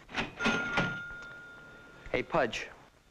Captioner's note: register dinging